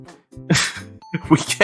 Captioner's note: disappointed grunt